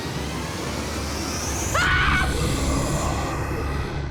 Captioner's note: screams